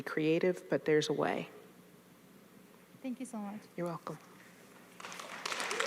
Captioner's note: audience applauding